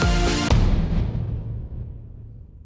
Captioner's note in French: Boum